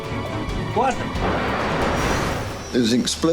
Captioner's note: metal tearing